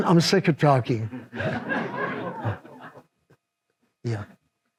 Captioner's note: audience laughs